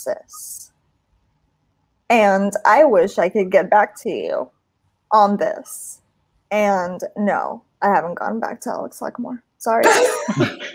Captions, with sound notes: and I wish I could get back to you on this; and no I haven't gone back to Alex Lacamoire. Sorry. (LAUGHTER)